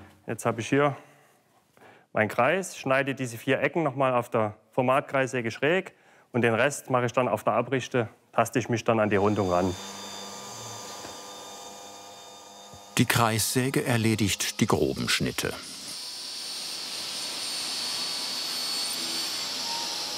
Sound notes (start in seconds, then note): 16.1 whirring